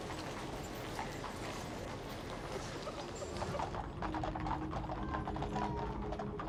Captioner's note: horse hooves continue to clatter